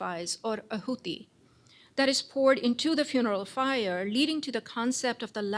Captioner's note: non-english